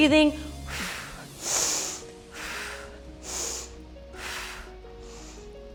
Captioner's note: exhales and inhales